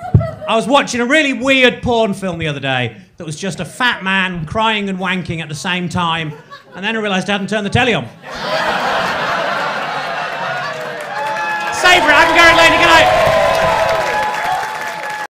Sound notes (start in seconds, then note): 8.2 crowd laughing